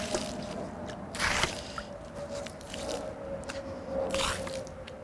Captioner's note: water splashing